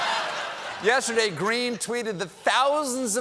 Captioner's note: laughter